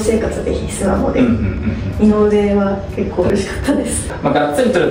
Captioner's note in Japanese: 咳払い